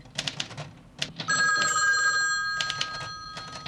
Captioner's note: typing; phone rings